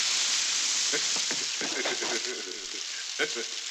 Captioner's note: Indio laughing